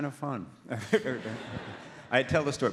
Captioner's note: audience laughs